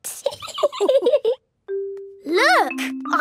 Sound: laughing

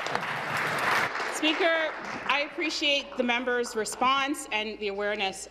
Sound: applause

